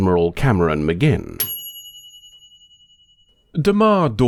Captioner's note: ding